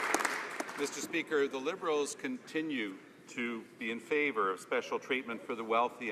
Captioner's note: some Applause